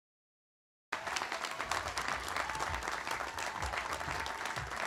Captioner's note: audience applauding